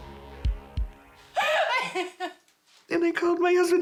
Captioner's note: sobbing